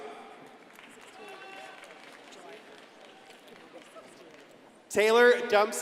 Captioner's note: crowd applauding and cheering